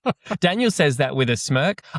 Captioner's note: laughs